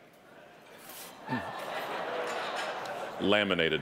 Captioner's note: audience laughing